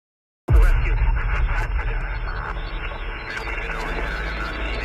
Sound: police chatter

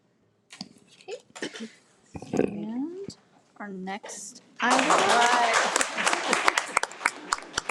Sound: everyone applauds

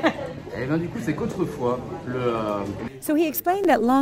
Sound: laughing; man speaking French

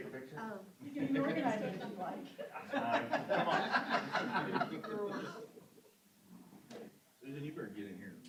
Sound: laughter

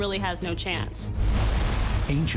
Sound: water crashing

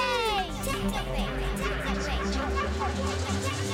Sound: echoing

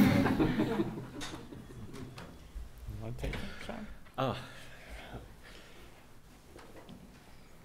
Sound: background laughter

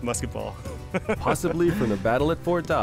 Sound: laughter

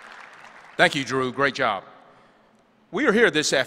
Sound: applause

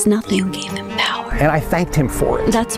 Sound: whispers

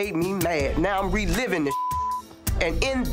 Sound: beep

